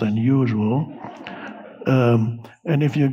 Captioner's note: audience laughing